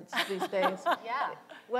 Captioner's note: laughter